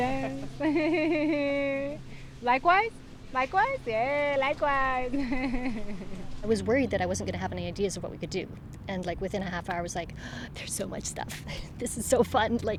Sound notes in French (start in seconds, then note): 0.0 Rires; 5.1 Des rires